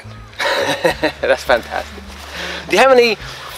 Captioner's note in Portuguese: Risos